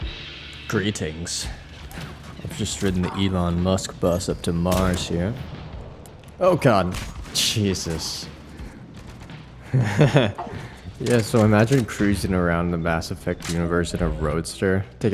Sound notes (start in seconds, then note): 9.5 laughs